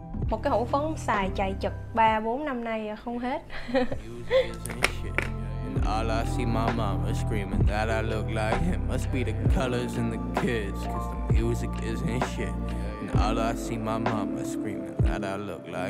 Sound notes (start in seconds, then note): 3.4 giggling